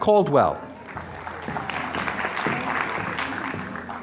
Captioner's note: applause